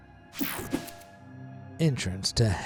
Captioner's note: transition slashes